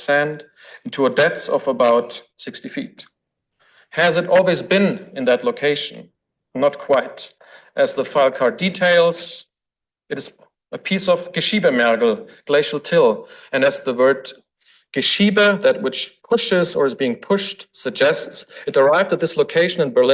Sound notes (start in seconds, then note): 11.4 foreign language